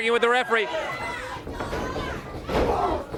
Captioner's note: crowd cheering